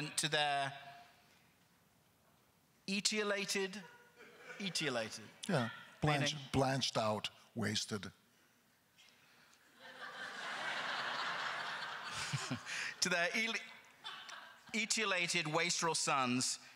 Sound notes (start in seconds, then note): 9.7 crowd laughter; 12.0 laughing